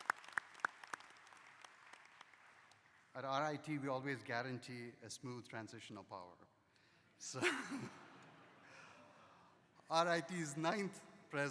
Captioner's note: applause